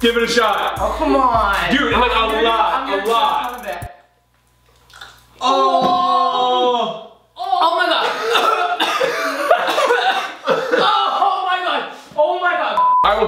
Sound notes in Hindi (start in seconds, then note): 8.0 खाँसी; 12.8 बीप